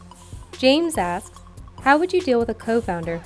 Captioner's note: voiceover